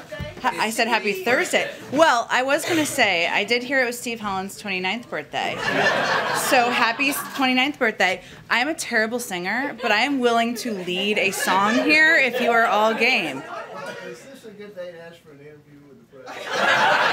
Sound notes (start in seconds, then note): 5.5 laughter; 13.2 laughter